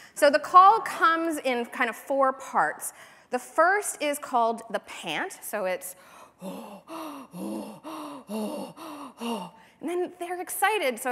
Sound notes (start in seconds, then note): 7.6 panting